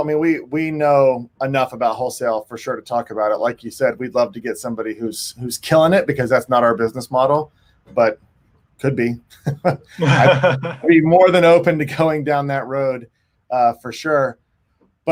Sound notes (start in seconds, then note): 9.4 chuckles